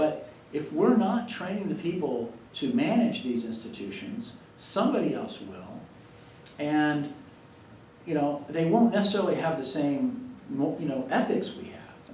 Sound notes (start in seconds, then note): none